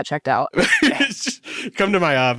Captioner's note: laughs